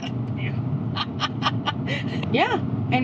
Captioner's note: laughing